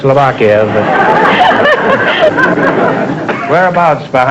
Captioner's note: audience laughter